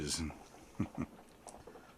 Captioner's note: chuckles